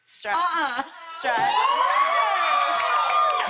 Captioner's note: cheers and applause